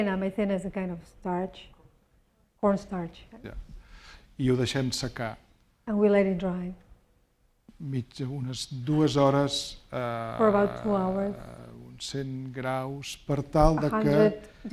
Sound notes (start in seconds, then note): 4.7 speaking spanish